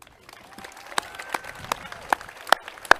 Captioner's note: clapping